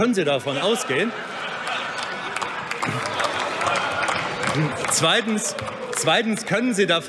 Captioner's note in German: Heiterkeit bei der CDU/CSU – Lachen bei der AfD und der FDP